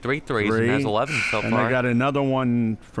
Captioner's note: buzzer sounding